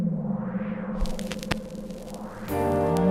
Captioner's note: record scratches